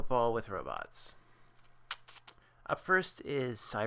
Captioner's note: sucks teeth